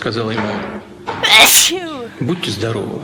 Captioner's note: sneeze